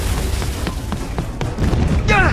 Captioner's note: running